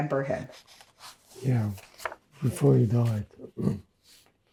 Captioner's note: clears throat